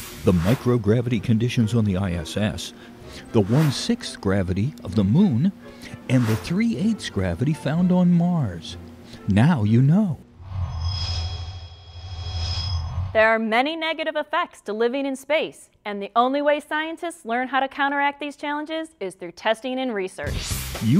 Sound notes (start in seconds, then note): 10.4 sound Effects